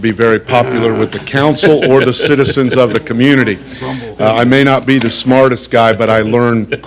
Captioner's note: laughter